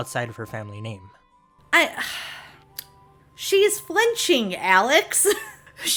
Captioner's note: sigh